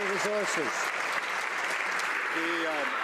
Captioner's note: some Applause